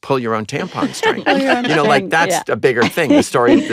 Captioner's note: laughter